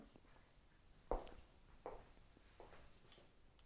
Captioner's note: footsteps thudding